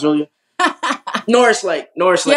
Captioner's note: laugh